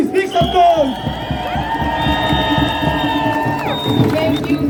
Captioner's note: cheers and applause